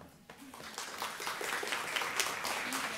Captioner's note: audience applause